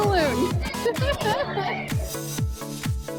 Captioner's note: giggles